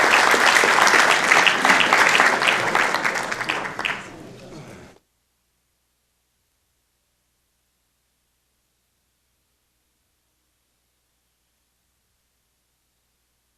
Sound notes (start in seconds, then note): 4.6 applause